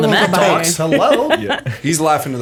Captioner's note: laughter